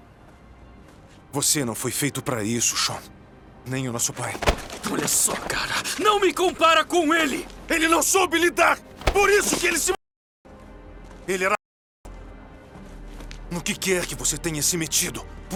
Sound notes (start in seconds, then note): none